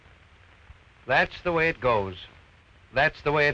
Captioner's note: voiceover